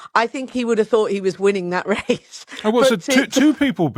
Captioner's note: chuckles